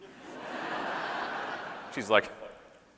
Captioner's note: audience laughing